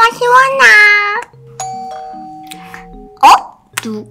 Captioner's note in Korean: 띵동